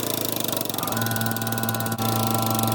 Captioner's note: press noises